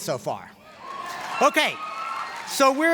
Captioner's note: applause